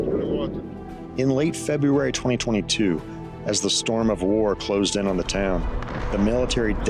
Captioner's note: in English